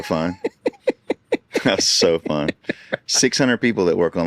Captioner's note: laughing